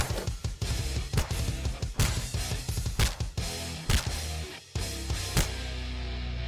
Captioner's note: wet bone crunching